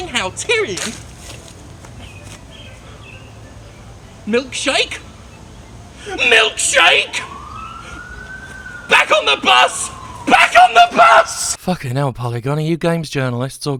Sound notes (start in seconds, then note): 6.0 police siren